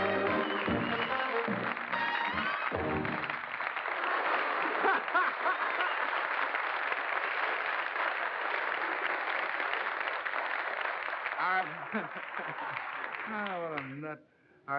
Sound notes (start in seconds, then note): 0.2 applause; 4.0 laugh; 6.7 applause